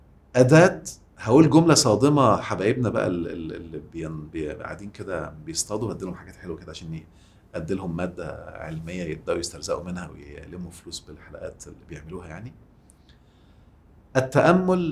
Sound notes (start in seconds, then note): 12.9 sarcasm!